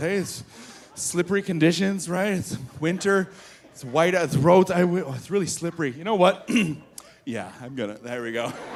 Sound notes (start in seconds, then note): 6.4 clears throat